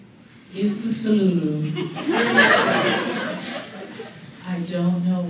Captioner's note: laughter